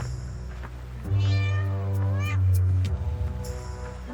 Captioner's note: distant cat meowing; eerie and tense orchestral music